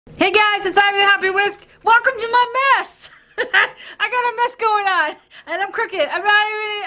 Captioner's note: laughs